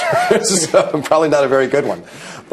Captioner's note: laughing